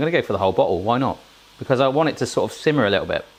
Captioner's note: sizzling